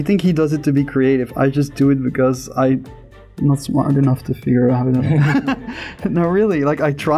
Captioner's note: laughter